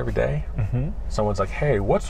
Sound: laughing

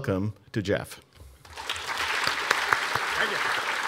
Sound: audience applauding

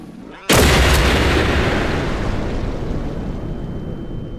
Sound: gun banging

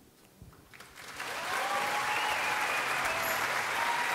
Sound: audience applauds

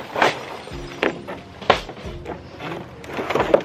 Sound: gentle jazzy music; glass shattering

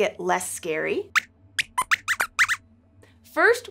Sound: squeaks squeaks

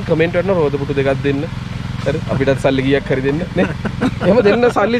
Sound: laughing

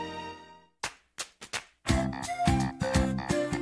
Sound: rhythmic Clapping

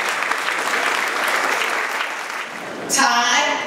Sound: ^applause^

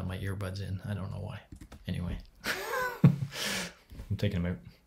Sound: laughs

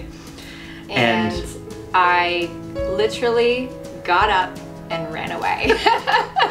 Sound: laughing

